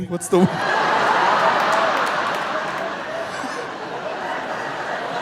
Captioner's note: audience laughing